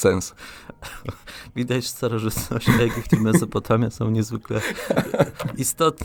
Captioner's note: śmiech